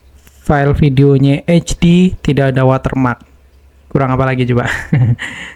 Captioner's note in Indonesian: tertawa